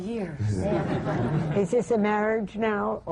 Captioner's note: laughter